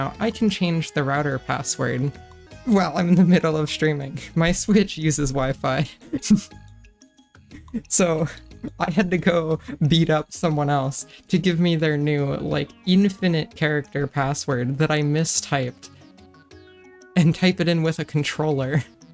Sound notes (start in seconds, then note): 6.0 laughing; 6.0 giggle